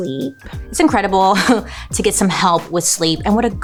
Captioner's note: laughs